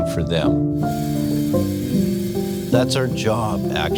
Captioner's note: machine whirring